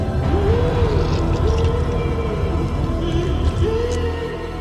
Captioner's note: flesh squelching